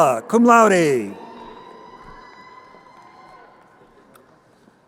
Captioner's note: crowd cheering